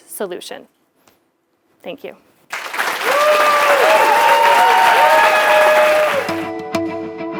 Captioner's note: applause